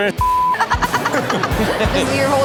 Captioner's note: Chanel laughs